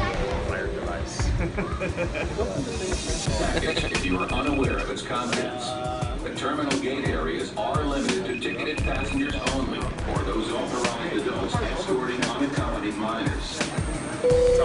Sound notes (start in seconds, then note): 0.0 dramatic music; 1.4 laughs; 3.6 line ringing